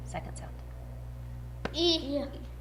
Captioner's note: tap